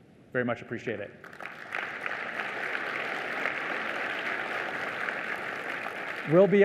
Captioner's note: applause